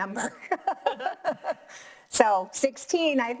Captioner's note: both laughs